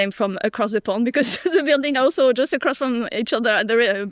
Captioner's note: laughs